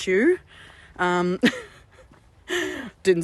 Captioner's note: laughter